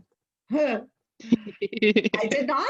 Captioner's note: laughter